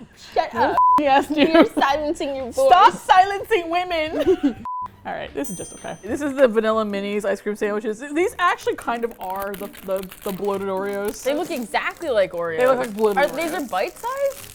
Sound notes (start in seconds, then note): 4.1 both laugh